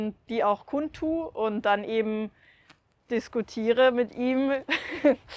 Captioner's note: laughs